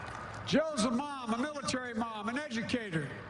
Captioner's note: none